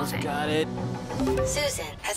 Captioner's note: notification alert